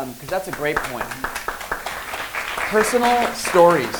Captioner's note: applause